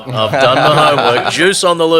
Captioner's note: laughing